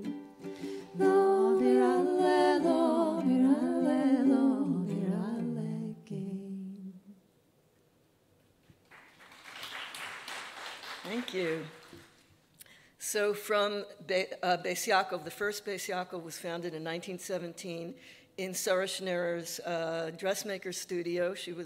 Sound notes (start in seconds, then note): 2.1 singing in Yiddish; 8.8 audience applauding